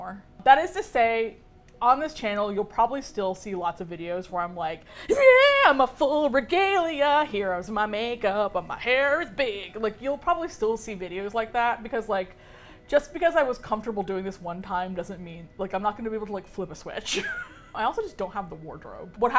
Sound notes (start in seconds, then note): 4.8 enthusiatically, singsong; 17.0 laughs